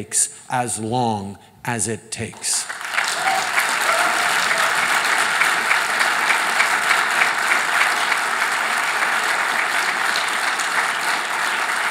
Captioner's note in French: Applaudissements